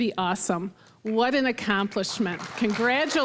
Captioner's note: applause